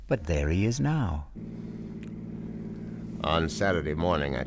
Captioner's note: engine humming